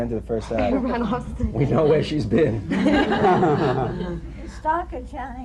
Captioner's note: laughter